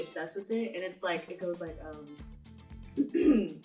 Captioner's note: clearing throat